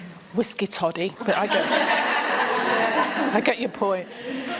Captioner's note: laughter